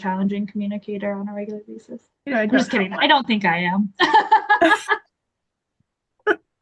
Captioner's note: laughs